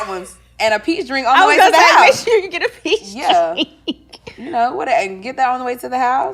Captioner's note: laughing